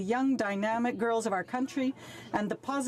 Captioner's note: speaking French